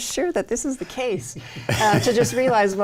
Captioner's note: laughing